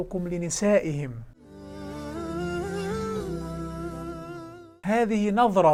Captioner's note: logo and sound effect